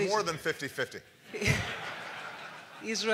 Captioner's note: laughter